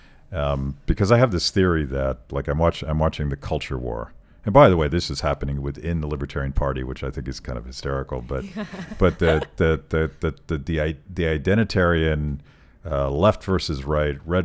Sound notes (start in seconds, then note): 8.3 laughing